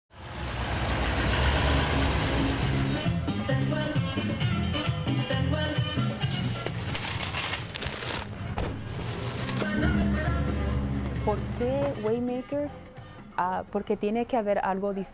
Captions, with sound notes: (car engine revving) (light upbeat music) >>Por qué Waymakers? Porque tiene que ver algo diferente.